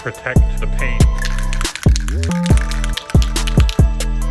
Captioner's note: rattling